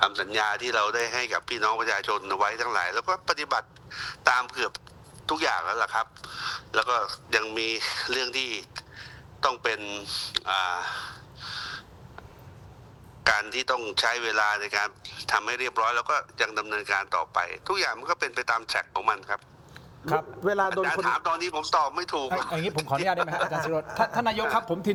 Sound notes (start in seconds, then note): 12.1 sigh